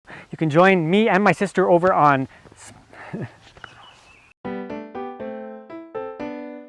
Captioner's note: laughing